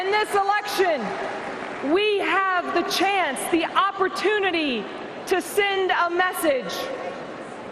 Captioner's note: cheering and applause